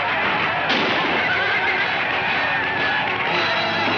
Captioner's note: gunshot firing